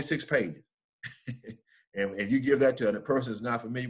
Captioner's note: laughs